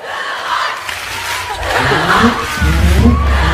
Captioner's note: crowd screaming "Kivanc"